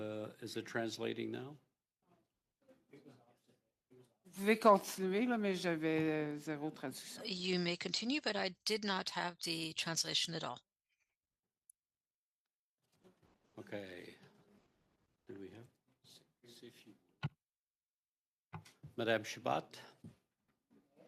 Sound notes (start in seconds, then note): 10.0 speaking french